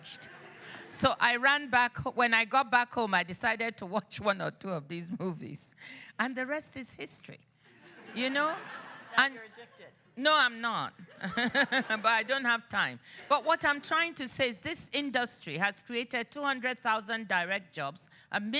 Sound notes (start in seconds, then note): 7.8 audience laughs; 11.0 laughs